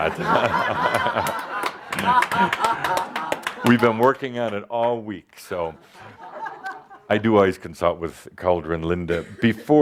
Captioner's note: more laughter